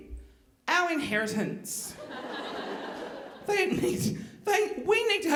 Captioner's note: audience laughing